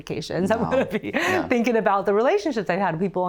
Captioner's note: chuckles